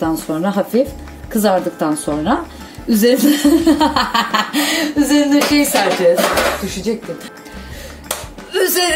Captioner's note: laughter